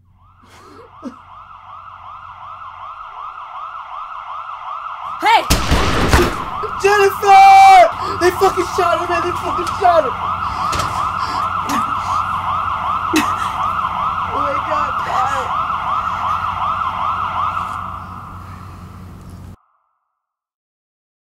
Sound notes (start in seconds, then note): 0.3 sirens blaring; 5.4 gun firing; 10.9 sirens blaring; 18.8 silence